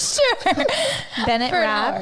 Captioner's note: laughing